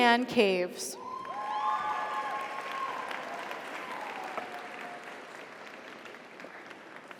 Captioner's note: audience cheers; audience applauds